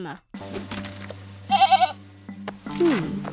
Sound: bleating

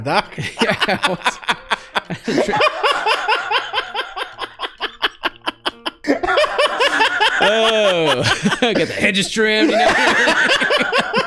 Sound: laughter

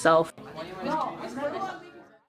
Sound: students chattering

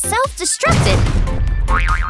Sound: boom

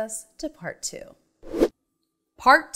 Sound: animation whooshes

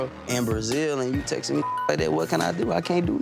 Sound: beep

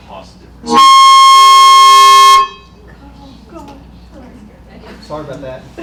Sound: loud microphone feedback

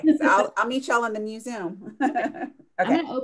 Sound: laughs

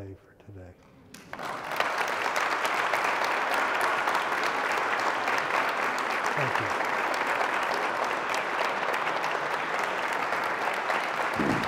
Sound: applause and the Silence to the end

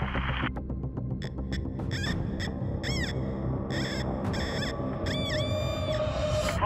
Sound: metal detector squealing

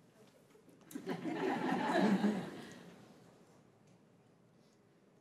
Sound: crowd giggling

